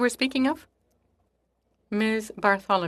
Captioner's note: speaking French